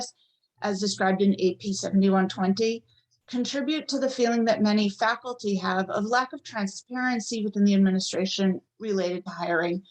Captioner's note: none